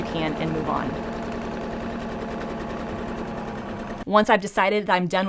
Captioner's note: sewing machine hums